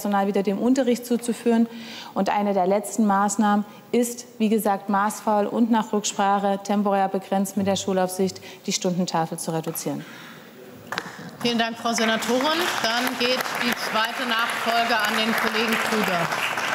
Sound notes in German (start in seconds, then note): 10.9 Beifall